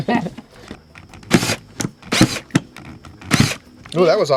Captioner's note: laughing; drill drilling